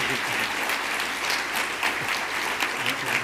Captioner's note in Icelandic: fagnaðarlæti